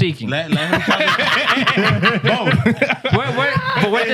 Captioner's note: laughing